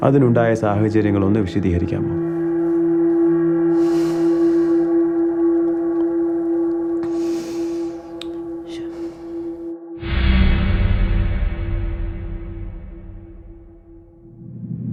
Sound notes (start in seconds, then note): 4.8 Sofia sighs; 10.3 dramatic music